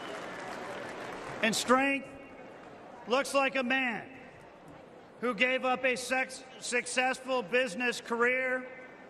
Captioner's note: cheers and applause